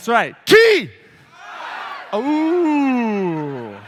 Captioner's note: audience shouts response; laughter